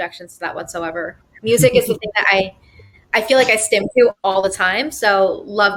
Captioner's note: murmurs